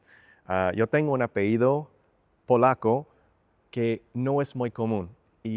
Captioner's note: in Spanish